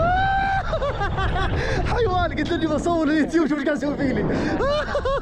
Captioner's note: laughs